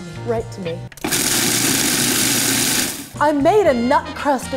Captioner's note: food processor grinding